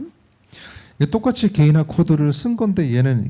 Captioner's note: speaking korean